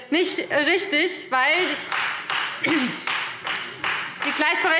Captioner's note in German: Beifall Freie Demokraten